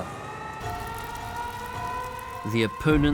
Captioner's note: sirens